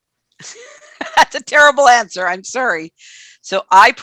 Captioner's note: laughs